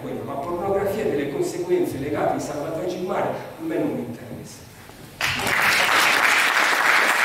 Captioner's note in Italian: Applauso